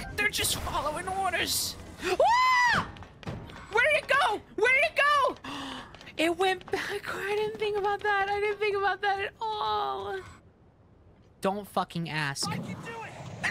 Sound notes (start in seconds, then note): 2.1 scream; 5.4 gasp